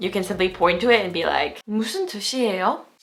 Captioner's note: speaking in foreign language